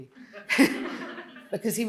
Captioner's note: Jenny and audience laughing